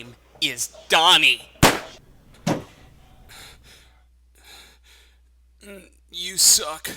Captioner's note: gunshot